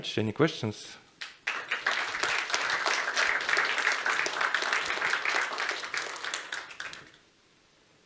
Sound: applause

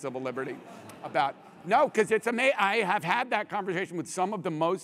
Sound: laugh

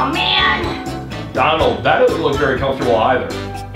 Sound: voiceover

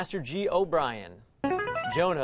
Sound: buzzer plays

